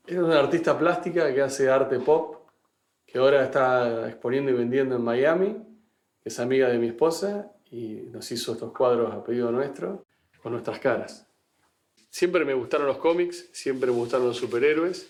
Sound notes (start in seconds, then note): none